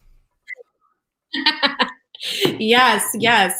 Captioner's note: laughs